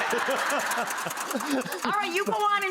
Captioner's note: audience laughs